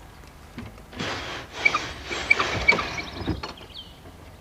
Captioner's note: window scraping